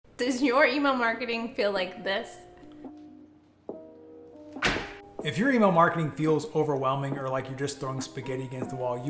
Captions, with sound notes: - Does your email marketing feel like this? (gentle music) (smacking) - If your email marketing feels overwhelming or like you're just throwing spaghetti against the wall,